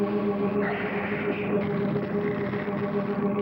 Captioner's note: hissing